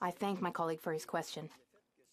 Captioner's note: speaking French